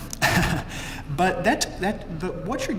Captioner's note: laugh